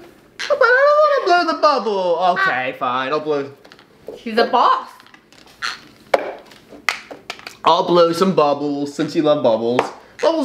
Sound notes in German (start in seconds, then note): 4.2 Mutter; 6.1 Tasse klopft auf den Tisch